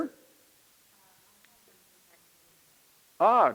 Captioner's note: student speaking faintly